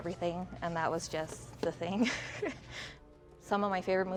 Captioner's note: laughs